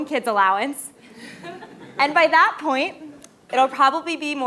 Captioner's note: laugh